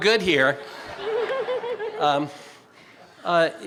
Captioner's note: laughter